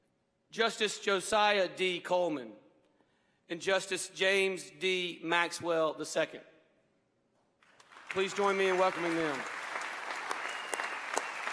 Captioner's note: applause